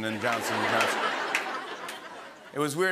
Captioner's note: laughter